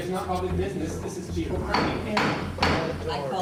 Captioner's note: gavel banging